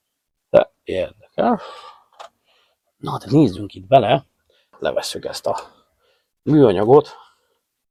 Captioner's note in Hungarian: sóhajtás